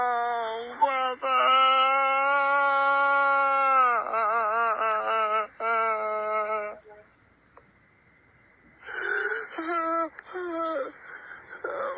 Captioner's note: screaming